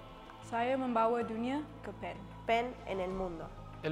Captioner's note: woman speaks foreign language